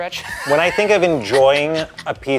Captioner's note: laughing